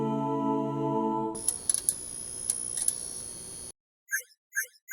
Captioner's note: electricity buzzing; blinking sound effects